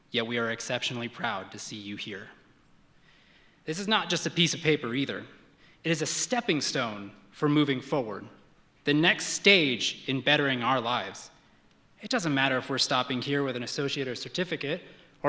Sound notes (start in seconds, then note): none